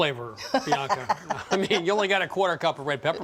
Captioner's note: laughs